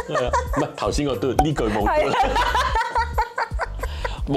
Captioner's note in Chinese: 爆笑